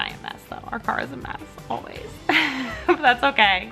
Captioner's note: chuckles